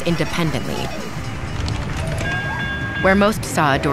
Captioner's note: train whistling